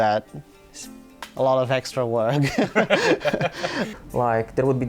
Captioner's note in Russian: смеется